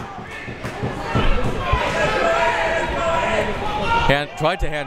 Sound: crowd members shouting

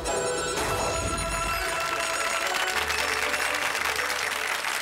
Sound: applause

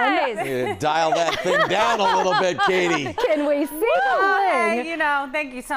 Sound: laughter

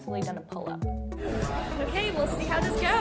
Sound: breathes deeply

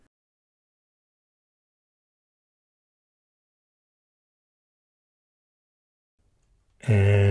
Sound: silence while works

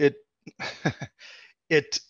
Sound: laughs

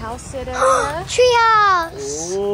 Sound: gasps

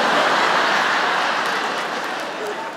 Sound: laughter

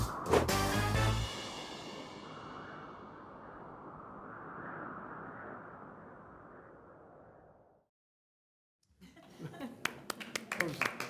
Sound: applause

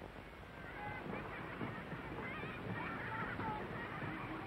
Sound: sound of children laughing

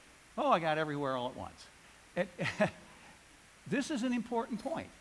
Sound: laughs

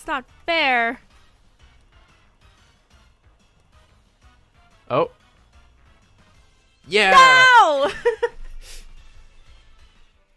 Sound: laughs

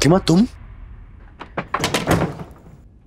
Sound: door closes

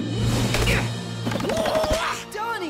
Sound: grunting

